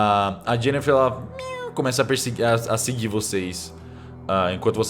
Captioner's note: meows